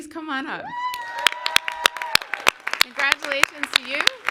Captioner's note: clapping